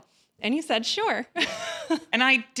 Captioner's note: laughs